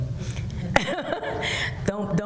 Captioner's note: laughs